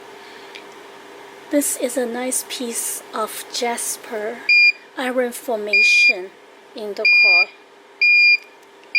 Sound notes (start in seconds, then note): 5.9 beep, beep, beep